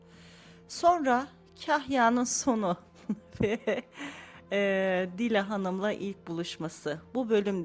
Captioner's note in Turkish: kahkaha